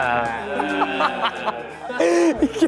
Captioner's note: an eugh~ sound fills the room